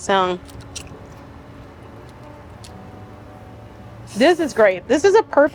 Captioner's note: potato crunching